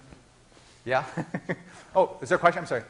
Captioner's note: laughing